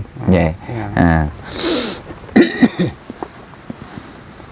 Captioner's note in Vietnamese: khịt mũi